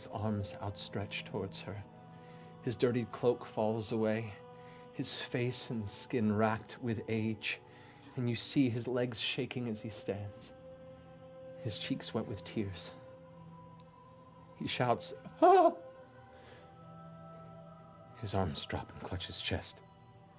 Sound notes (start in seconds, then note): 15.2 exclaims